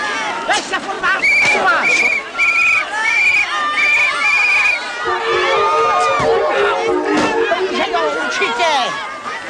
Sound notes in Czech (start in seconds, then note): 1.4 hvizd píšťalky